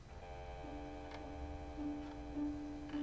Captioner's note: dial tone